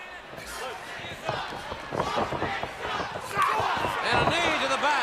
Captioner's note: crowd cheering